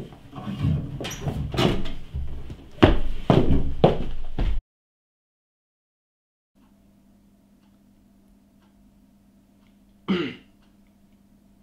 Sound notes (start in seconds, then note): 10.0 clears throat